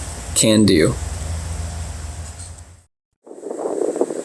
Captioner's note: wind blowing